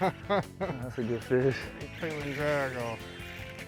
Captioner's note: man laughs